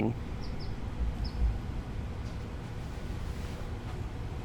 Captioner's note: birds chirping; wind rustling